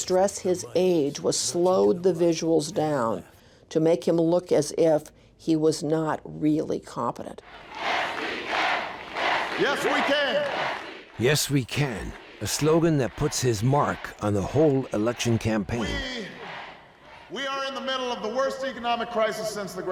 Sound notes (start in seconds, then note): 8.3 crowd and Obama chanting